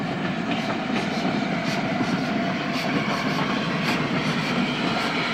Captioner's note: train passes